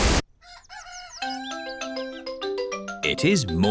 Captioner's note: cockerel crows